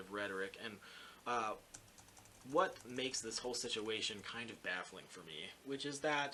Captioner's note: typing